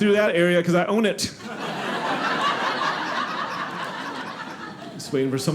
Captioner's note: audience laughing